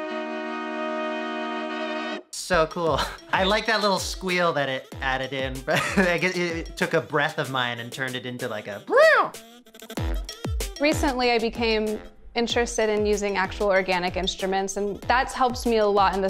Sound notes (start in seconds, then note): 5.7 laughs; 9.9 upbeat music